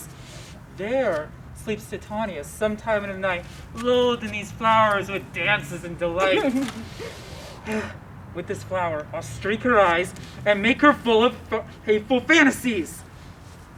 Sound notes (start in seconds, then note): 6.0 laughs